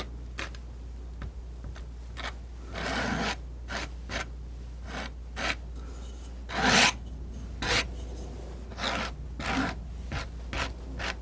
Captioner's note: scratching